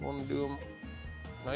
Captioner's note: none